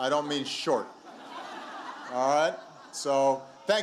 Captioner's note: laughter